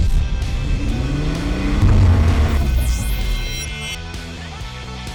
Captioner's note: engine revving